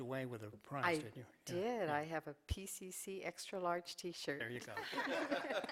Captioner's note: laughter